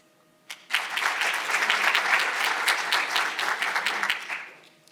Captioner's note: audience applauding